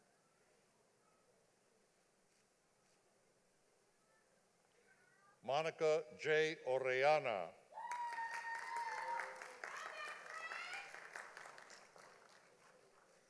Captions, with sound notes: Monica J. Oriana. (audience applauding)